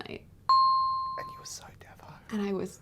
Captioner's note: dinging